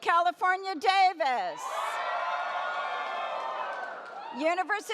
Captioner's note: audience cheers